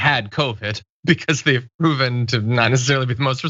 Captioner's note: laugh